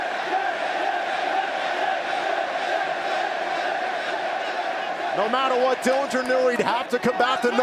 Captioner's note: crowd cheering